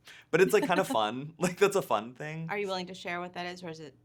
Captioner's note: laughing; chuckling